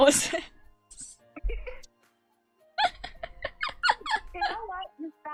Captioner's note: laughing